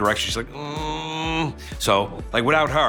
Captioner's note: imitates his wife groaning